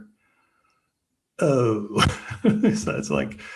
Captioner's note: laughs